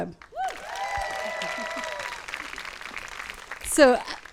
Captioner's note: audience claps and cheers